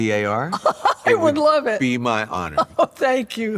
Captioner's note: laughs; laughing